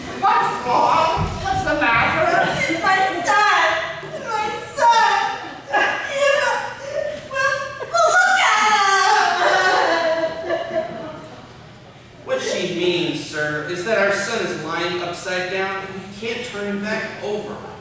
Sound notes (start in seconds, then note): 4.1 sobbing; 5.8 uncontrollable tears